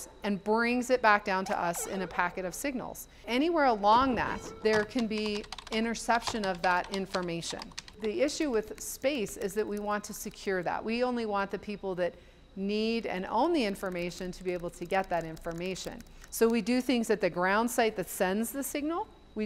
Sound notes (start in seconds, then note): 0.0 satellite bleeping; 4.4 keyboard clacking